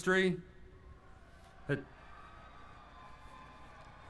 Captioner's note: applause